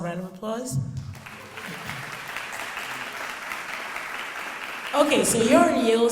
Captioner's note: audience applauding